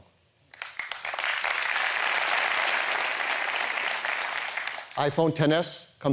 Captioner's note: applause